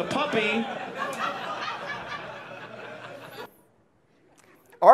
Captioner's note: audience laughs